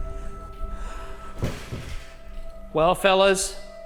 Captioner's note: eerie music; object clattering